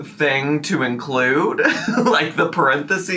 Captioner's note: chuckles